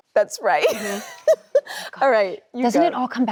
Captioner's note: laughs